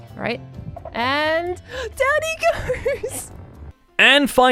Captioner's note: victorious giggling